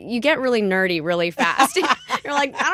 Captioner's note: laughter